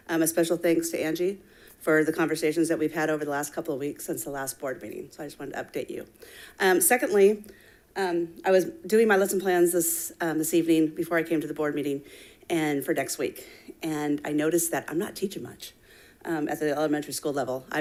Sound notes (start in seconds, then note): none